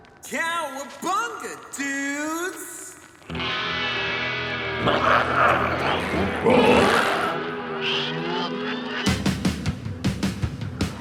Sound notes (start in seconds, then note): 3.9 energetic music; 4.7 glowzies growling